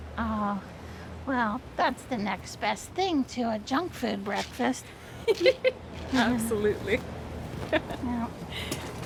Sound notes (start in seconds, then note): 5.2 laughs